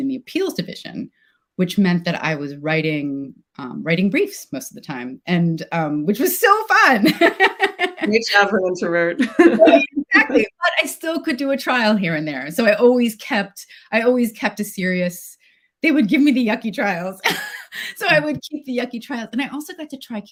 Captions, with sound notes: in the Appeals Division, which meant that I was writing briefs most of the time, which was so fun. (laughs) - Whichever introvert. - Exactly. But I still could do a trial here and there. So I always kept a serious, they would gimme the yucky trials. So I would keep the yucky trials.